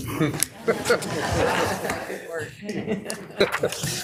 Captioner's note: all laughing